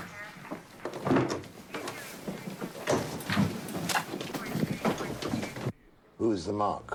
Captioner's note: objects clattering; police radio chatter